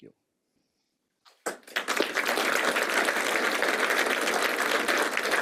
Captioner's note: applause